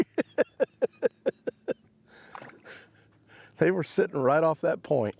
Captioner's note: laughing